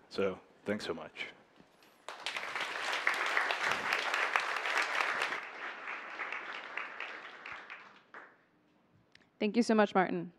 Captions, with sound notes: speaking to the news community. So thanks so much. (Applause).